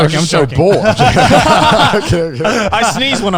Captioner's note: everyone laughs